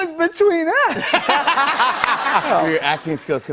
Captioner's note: laughter